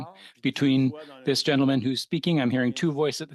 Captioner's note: speaking French